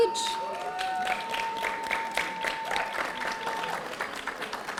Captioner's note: audience applauding